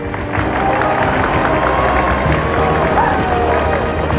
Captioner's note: applause